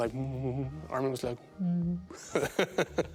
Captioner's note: laughing